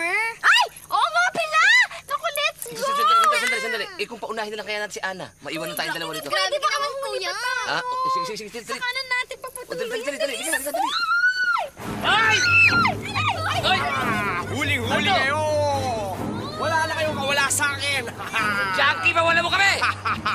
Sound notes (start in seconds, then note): 11.9 all screaming; 17.7 laughing maniacally